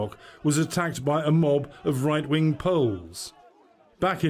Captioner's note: crowd chanting in polish